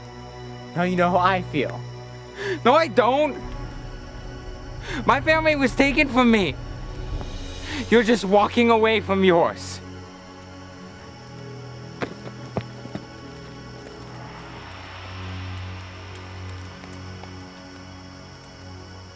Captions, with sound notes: Now, you know who I feel. - No, I don't. My family was taken from me. You're just walking away from yours. (gentle music) (fire crackling)